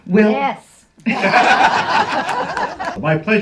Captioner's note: laughs